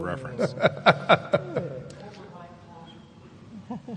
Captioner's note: laughs